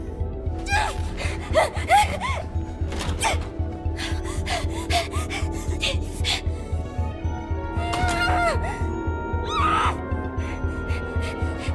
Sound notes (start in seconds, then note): 0.5 exclaims angrily; 1.2 panting; 7.9 groans, screams through teeth